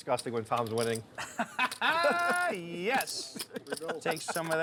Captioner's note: laughs